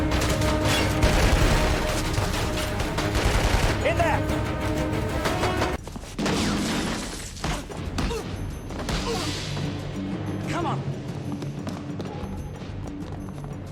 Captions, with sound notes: [Gunshots] In there! [Punch, gunshots, more punches] Come on! [Quick footsteps]